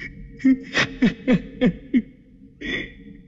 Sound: laughs

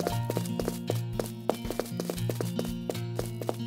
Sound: footsteps; more footsteps; even more footsteps

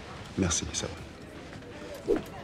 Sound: speaks in french

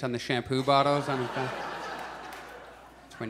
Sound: audience laughs

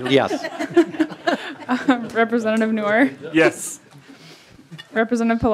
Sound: laughing

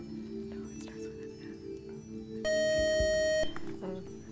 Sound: buzzer

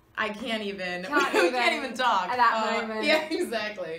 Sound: Kathryn laughs

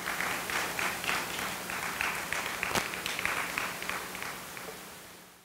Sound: audience applauding

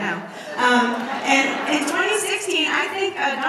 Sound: audience laughs

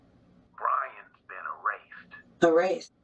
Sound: speaker phone

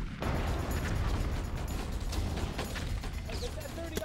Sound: explosion

